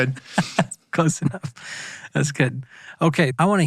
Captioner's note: laughs